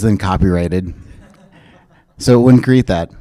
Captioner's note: chuckles